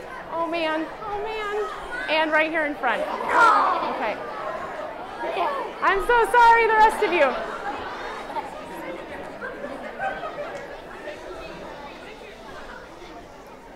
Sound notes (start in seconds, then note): 8.6 chattering